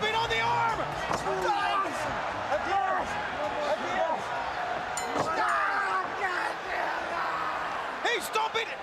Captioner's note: bell ringing